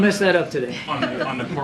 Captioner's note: laughter